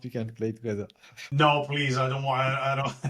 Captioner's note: laugh